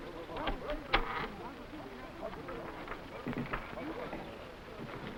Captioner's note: door creaking